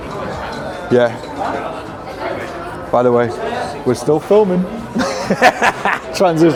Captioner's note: laughing